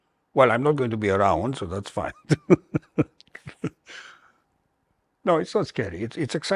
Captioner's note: laughter